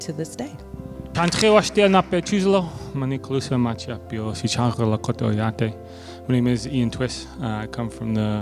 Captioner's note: speaking Indigenous Language